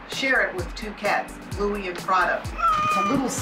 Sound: meows

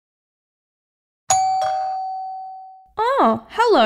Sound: doorbell!

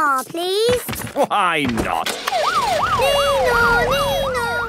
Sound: siren sounding

